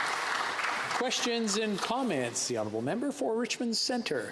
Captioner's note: some Applause